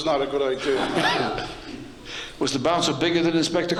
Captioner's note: laughing